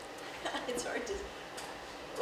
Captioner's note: laughs